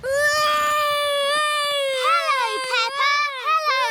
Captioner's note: continues wailing